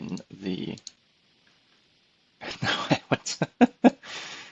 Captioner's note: laughs